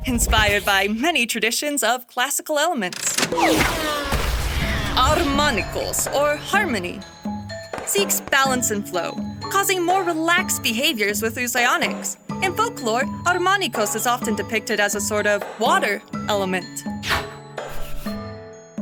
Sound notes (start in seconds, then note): 3.1 crash